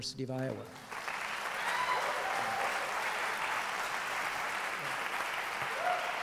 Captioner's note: applause, cheering